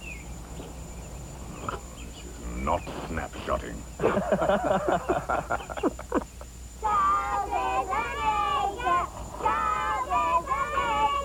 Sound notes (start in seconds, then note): 4.0 laughter